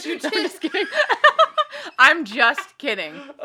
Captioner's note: laughs